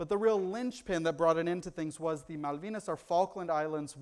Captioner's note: foreign language